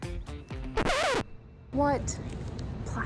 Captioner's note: record scratch